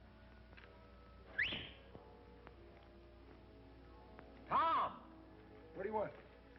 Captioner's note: whistles